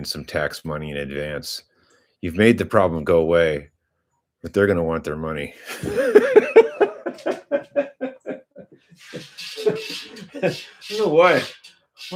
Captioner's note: laughter